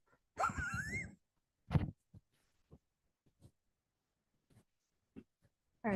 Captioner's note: laughs